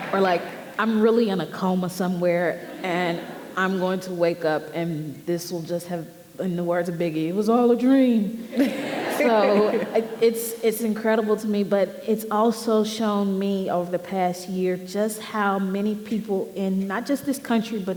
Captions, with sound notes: Or I'm really in a coma somewhere and I'm going to wake up and this will just have, in the words of Biggie, "It was all a dream." (audience laughing) So it's incredible to me. But it's also shown me over the past year just how many people, in not just this country,